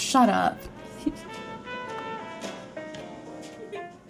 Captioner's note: chuckles